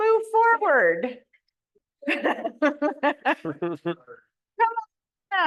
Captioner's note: laughs